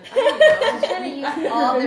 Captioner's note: laughter